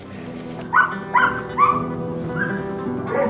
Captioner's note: dog barking